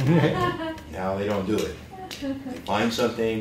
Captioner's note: laughter